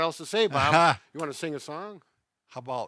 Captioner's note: laughs